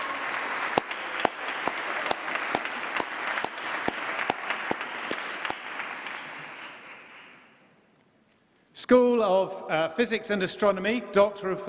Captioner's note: applause